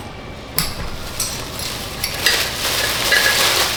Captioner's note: metal Clanking